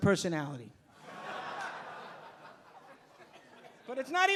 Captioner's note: audience laughing